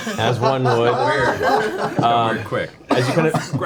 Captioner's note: all laugh